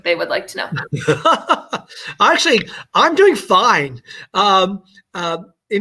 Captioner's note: laughter